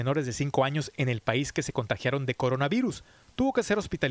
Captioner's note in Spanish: HABLA EN INGLéS